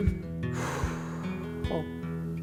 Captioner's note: exhales loudly